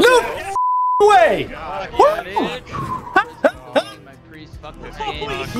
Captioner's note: laughing